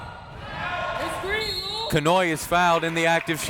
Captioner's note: whistle tweeting